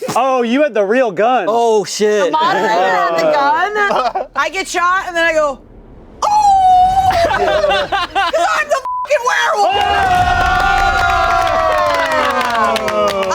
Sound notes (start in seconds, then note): 7.4 howls; 8.8 beep; 9.6 everyone cheering